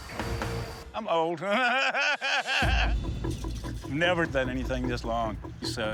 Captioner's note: laughs